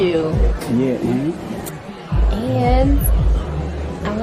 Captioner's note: voiceover